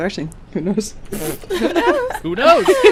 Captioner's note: laughter